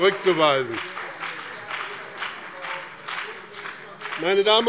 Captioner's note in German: Beifall